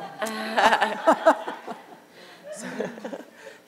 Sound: audience laughter

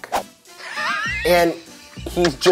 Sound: laughing

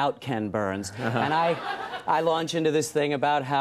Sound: audience laughs

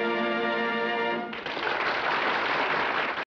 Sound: applause

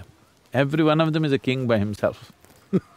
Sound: laughs

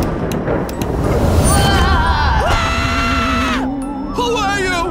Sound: thunder clap; screams

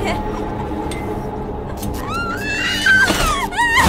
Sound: Pomni cackling

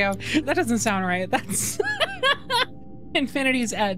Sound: laughter

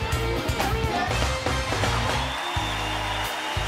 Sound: cheering; smooth music

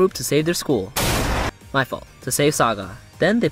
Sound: crash

